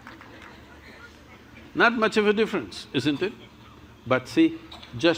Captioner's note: laughter